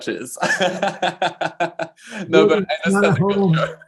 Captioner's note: laughing